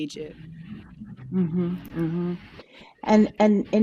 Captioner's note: car engine roaring